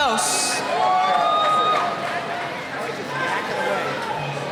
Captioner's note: cheering